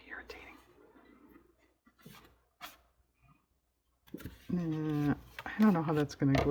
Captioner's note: whispers